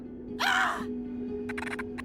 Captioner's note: Gabriella shouts